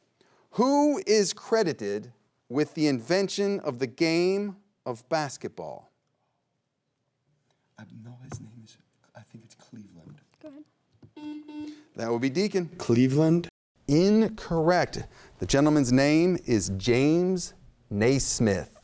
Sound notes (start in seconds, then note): 11.1 buzzer beeping